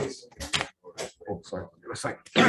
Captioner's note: indistinct conversation